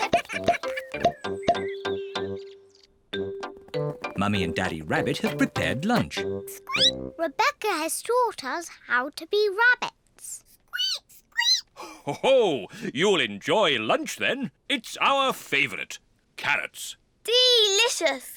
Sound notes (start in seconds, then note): 0.0 all giggling; 7.3 squeaks; 11.0 peppa and george squeak; 12.8 laughs